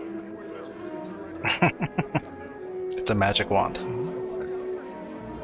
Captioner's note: chuckling